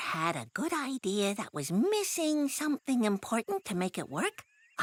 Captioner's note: none